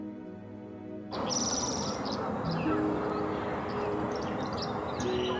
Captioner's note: birds chirping